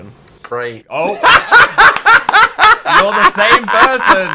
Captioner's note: laughs